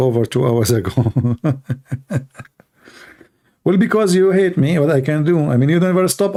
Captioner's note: Ketawa